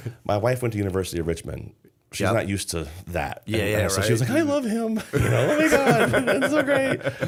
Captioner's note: laughter